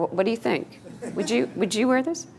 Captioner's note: students laughing